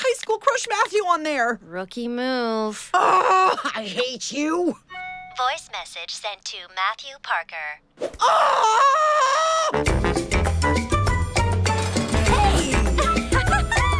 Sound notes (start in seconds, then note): 2.7 phone chiming; 8.2 screaming; 12.2 laughing